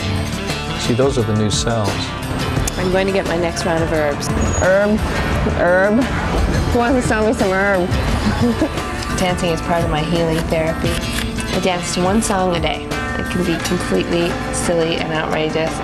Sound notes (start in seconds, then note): 6.8 laughs